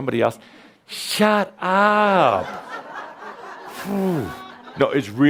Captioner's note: laughter